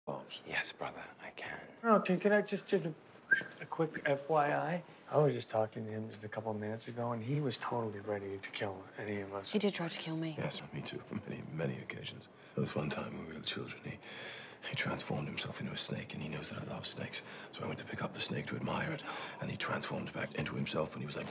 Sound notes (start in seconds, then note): 3.2 whistle